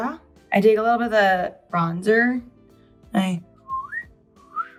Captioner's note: whistles